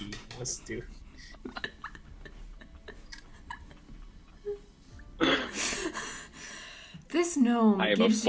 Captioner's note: intense cast laughter